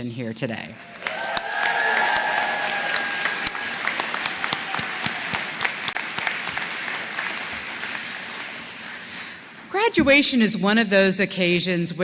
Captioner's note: cheers and applause